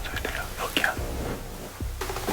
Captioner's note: snoring